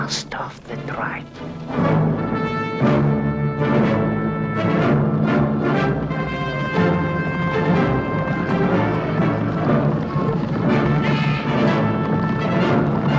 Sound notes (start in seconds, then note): 3.0 dramatic orchestral music; 8.6 horse hooves pounding